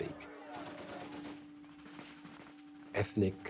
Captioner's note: gunfire